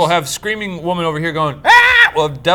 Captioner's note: screams